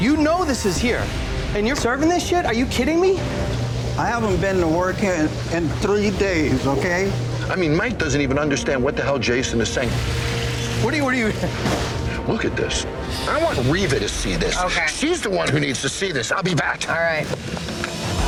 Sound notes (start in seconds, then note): 11.2 laughs; 18.0 suspenseful music